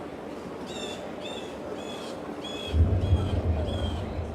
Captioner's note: bird chirping